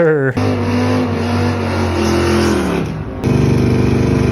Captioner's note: engine revving loudly